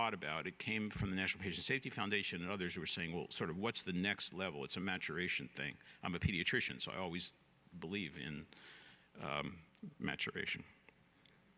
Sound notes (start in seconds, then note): none